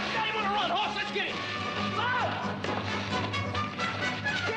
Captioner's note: yells